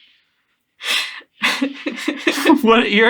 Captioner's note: laughing at seemingly nothing